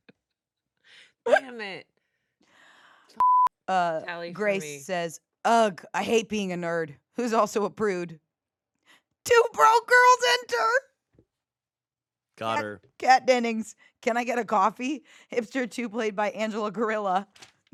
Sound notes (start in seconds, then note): 1.2 laughs; 3.2 beep